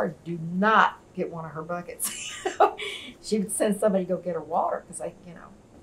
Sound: laughs

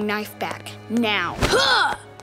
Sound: grunting

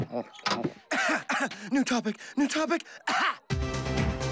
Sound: coughing

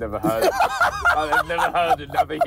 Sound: laughs loudly

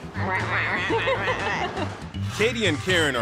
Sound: both chuckle

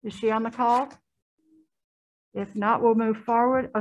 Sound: silence

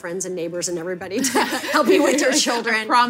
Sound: laughing

